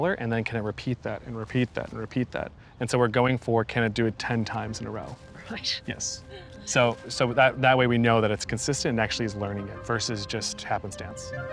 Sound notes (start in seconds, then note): 6.0 chuckles